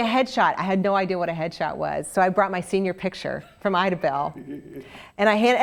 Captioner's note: laugh